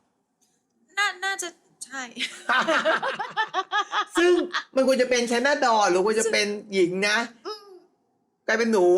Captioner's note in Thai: เสียงหัวเราะ